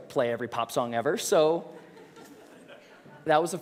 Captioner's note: risos